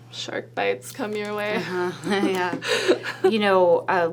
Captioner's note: laughs